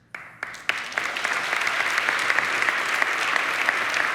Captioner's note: crowd applauding